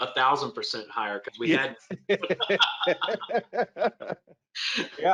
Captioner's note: both laugh